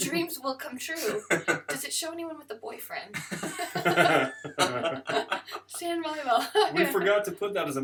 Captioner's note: laughter